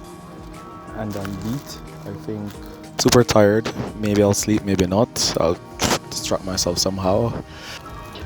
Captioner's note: tired